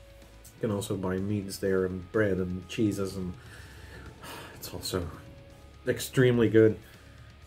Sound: sighs

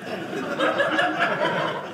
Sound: audience laughing

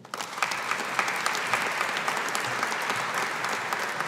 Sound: audience applauding

